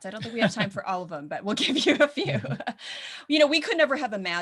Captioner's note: laughs